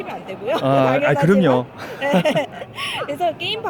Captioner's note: laughter